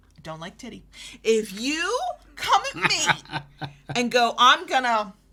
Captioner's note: chuckles